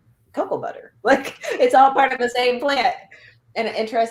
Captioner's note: laughter